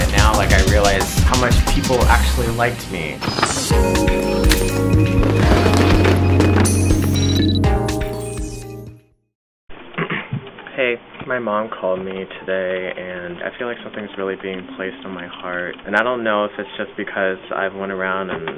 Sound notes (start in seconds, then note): 3.7 mellow music; 5.2 fireworks crackling